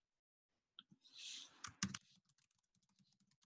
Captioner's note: typing